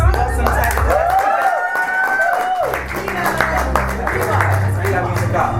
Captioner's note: audience applause and cheers